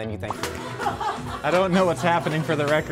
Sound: laughing

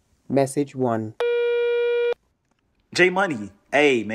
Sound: phone tone

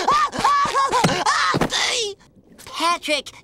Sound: crying; groaning

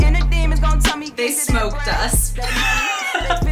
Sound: laughs

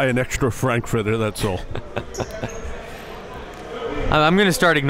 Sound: laughing

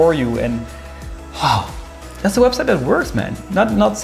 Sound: sigh

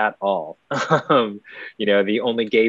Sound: laughs

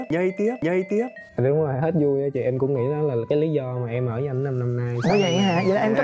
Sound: huu

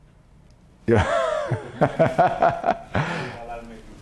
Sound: laugh

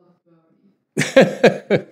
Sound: laughs

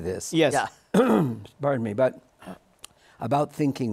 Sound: clears throat

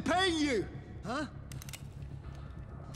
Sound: cocks gun

